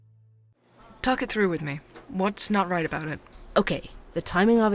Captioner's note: ambience - coffee shop